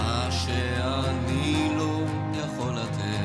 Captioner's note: none